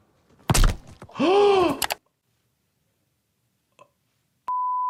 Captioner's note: ball thuds; gasps